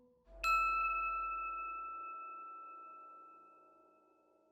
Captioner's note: bell chiming